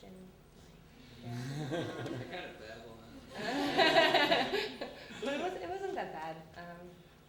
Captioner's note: audience laughter